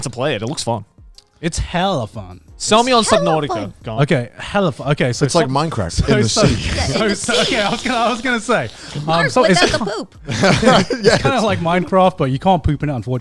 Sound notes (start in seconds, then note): 6.0 everyone laughing